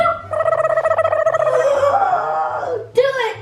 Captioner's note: gasps